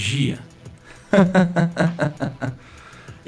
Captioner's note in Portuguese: Ha ha ha ha ha